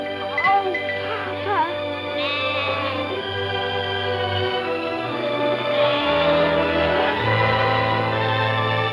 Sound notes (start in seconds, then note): 2.0 lambs bleating; 4.4 soft music